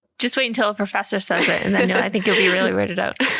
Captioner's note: laughs